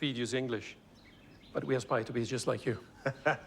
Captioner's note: laughs